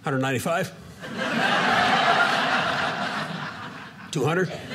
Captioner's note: audience laughing